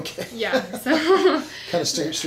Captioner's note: laughs